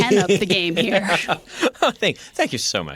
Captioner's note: laughter